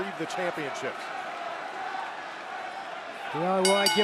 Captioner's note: bell ringing